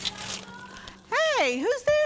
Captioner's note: woman yelling